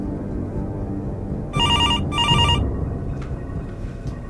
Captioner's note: phone ringing